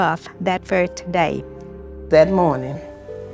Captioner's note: soundbite of archived recording